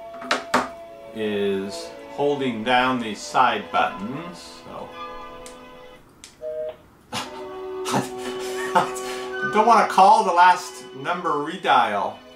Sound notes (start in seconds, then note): 6.3 beep; 7.7 laughing; 12.1 soft music